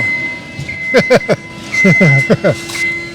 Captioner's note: laughs